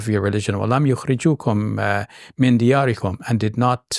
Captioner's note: speaking in Arabic